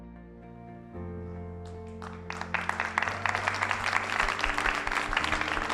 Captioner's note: applause